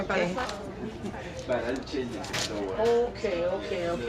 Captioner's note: chattering In Background